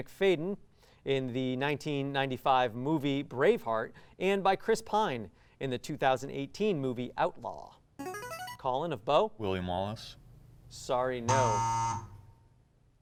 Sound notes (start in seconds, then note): 8.0 ring-in sound; 11.2 buzzer sound; 11.3 times up ring